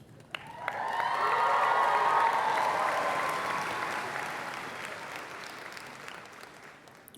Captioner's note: applause